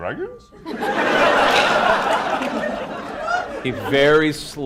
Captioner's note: laughter